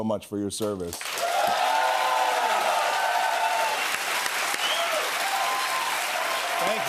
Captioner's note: cheers and applause